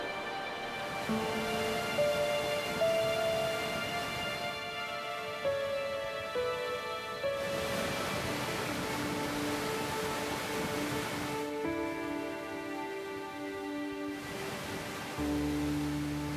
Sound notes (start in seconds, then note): 0.9 crashing rocks; 7.4 churning rock and water